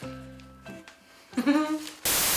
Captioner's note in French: rires gênés